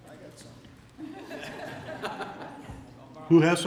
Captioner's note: laughter